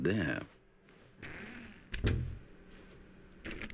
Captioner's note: typing